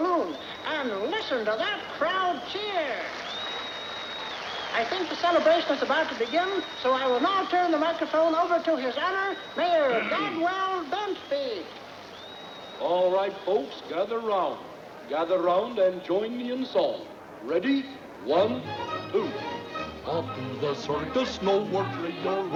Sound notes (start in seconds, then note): 2.6 crowd cheering